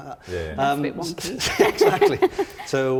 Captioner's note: others agreeing